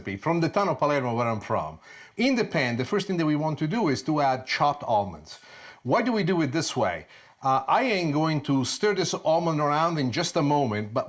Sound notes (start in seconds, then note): none